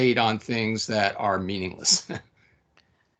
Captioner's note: laughing